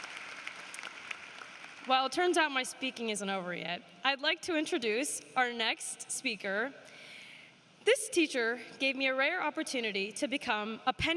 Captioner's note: applause